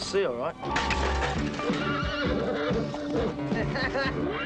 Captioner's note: horse whinnying; bucket clangs; Charlie laughing